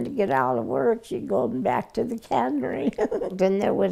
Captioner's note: giggling